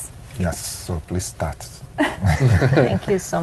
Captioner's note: chuckles